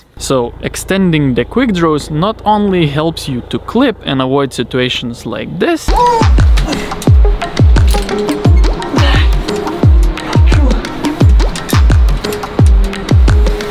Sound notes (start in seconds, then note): 5.9 upbeat music; 7.6 climber straining